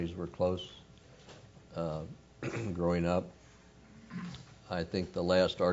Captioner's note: cough